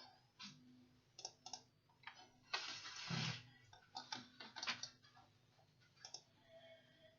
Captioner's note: clicking noises